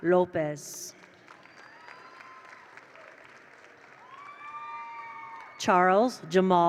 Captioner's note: attendees applaud; attendees cheer